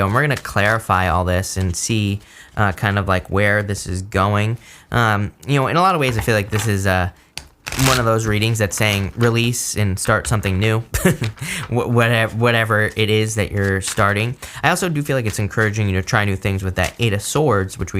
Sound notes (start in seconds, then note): 10.9 chuckles